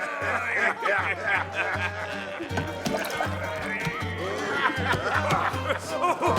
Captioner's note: people chattering; upbeat music continues